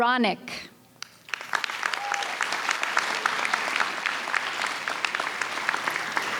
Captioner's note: audience cheers and applauds